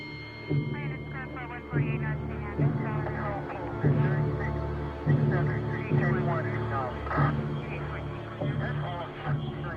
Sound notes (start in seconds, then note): 0.6 police radio chatter